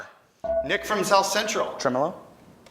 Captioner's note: buzzer chimes